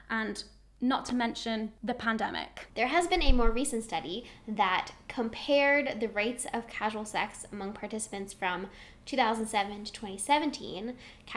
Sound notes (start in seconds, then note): none